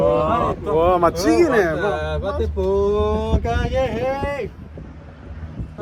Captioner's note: he was speaking in Korean dialect that doesn't really exist